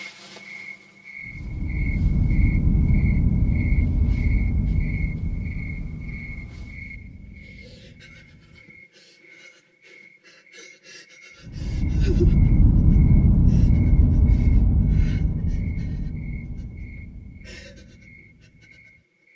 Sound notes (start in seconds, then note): 10.4 whimpering